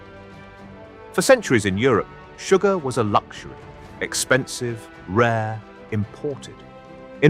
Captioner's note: fire burning